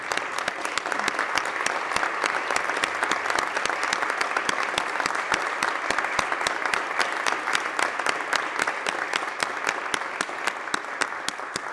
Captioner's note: applause